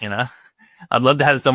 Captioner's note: chuckling